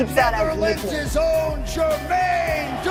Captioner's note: applause